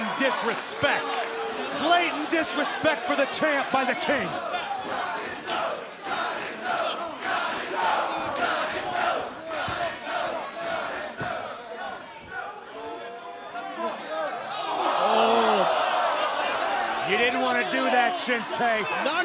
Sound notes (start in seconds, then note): 3.1 fans chanting